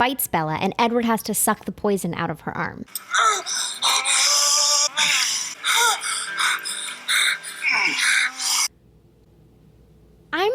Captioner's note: loud groaning and grunting